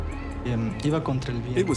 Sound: speaking spanish

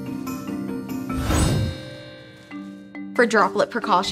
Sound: gown twinkles

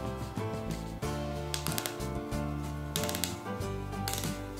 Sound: button snaps

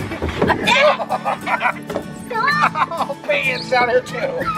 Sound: laughing

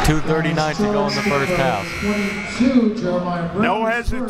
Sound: buzzer

